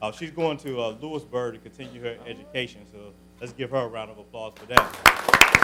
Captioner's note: applause